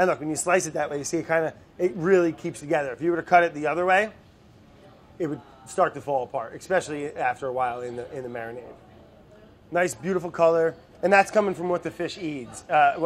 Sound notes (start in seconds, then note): none